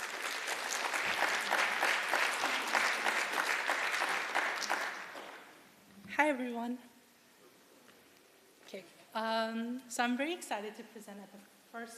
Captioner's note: applause